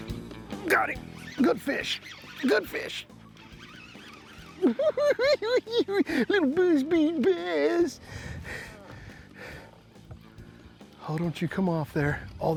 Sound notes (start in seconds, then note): 3.2 cackling